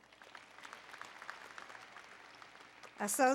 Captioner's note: applause